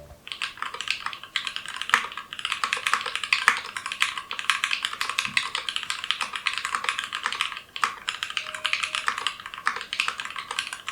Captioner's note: not so hot before mod keyboard typing sounds